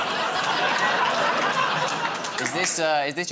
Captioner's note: laughter